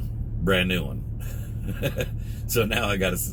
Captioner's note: laughs